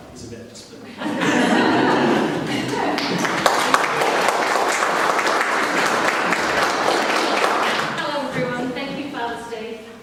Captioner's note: applause